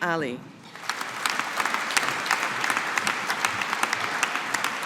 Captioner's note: audience applauding